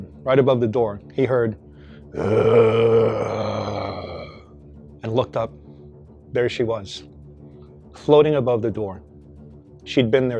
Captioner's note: growling noise